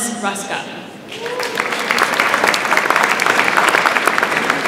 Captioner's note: audience applauds